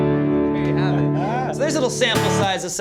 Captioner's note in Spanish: risas